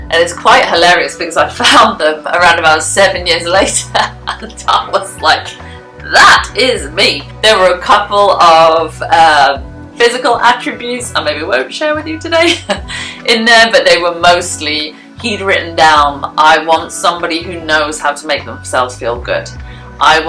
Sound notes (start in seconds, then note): 3.7 laughs